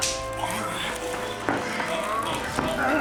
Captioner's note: both grunting